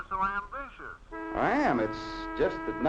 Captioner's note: horn honking